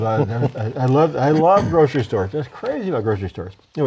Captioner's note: laughter